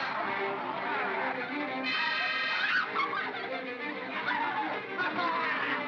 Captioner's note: bogeymen growling; suspenseful music; Bo Peep yelps; Barnaby laughs & growls